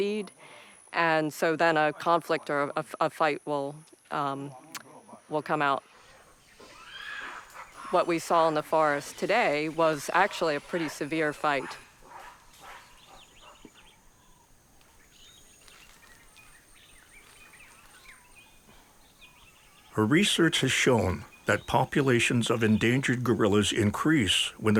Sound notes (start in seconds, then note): 6.5 gorilla screeching